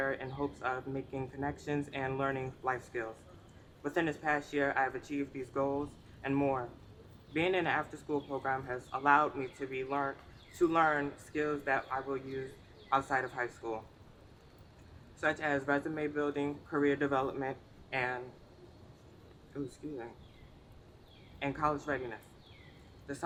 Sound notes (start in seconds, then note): none